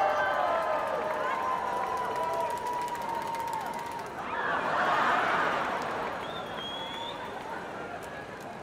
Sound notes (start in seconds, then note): 0.0 cheering; 7.1 laughter